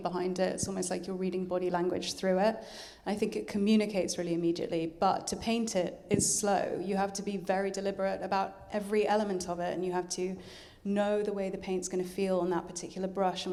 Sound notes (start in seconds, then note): none